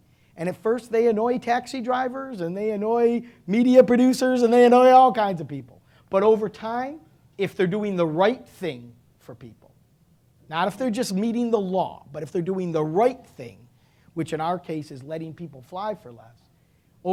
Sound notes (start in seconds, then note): none